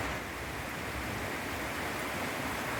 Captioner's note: heavy rain